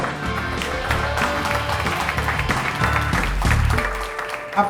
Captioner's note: audience clapping